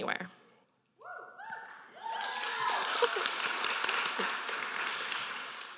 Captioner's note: audience cheering